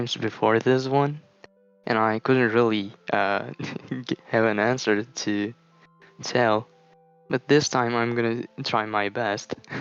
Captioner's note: laughs